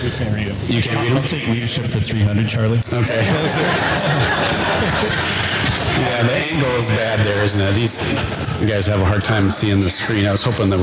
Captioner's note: audience laughter